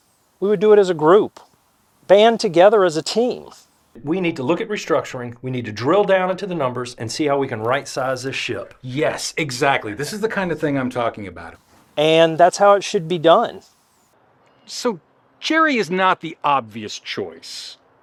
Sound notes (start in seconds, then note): none